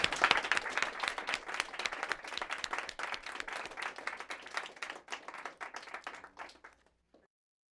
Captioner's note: applause